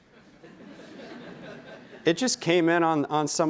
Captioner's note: laughing